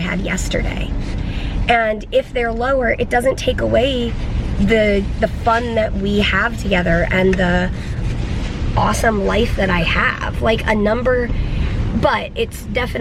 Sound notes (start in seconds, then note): none